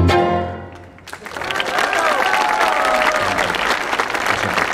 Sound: audience applauding

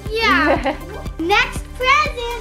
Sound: laughs

